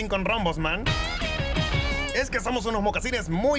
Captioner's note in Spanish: Sonido de CalcetinConRombosMan